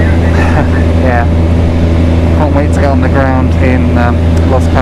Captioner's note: chuckles